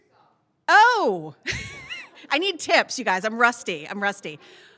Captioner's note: laughs